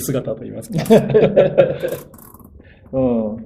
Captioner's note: laughs